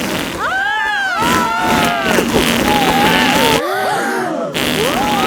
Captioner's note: both screaming; crowd gasps